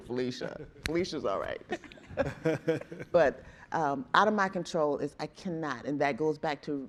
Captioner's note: chuckling